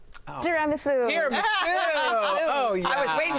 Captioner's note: laughs